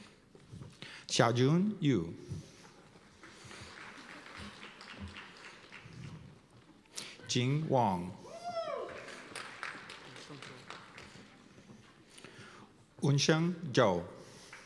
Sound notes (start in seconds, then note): 3.0 applause; 8.2 cheers and applause